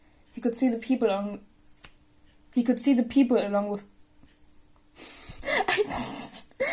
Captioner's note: snort and laughter